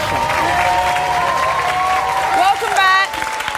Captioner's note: audience cheers and applauds